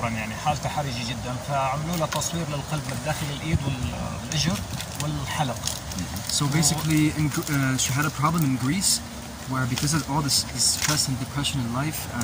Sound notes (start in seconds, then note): 6.0 speaking Arabic